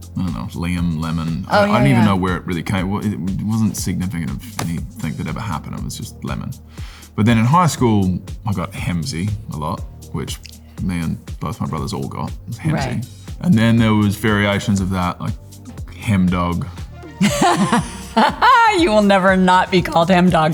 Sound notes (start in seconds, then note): 17.1 Laura laughing